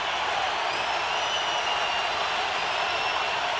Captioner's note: cheering